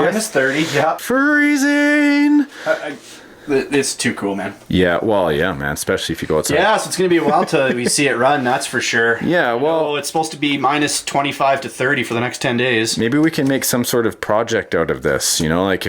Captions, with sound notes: - Minus 30, yep. - [Voiceover] Freezing. - [Voiceover] This is too cool man. - [Voiceover] Well yeah man, especially if you go outside. - Yeah so it's gonna be awhile until we see it run, that's for sure. I know it's supposed to be minus 25 to 30 for the next ten days. - [Voiceover] Maybe we can make some sort of project out of this.